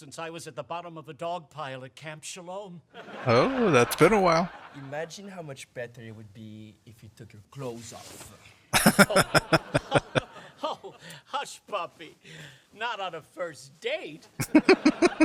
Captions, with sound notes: Oh, that's been a while. [Laughing] [Chuckling]